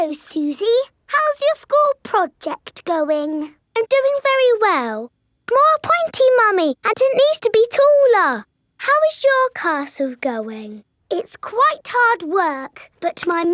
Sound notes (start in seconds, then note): none